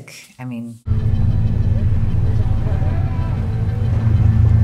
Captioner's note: rumbling sound